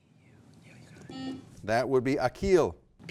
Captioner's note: buzzer buzzes